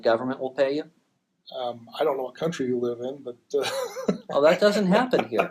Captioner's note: laughs